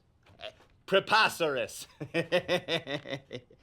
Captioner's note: laughs